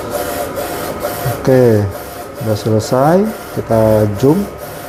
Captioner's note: printer machine noise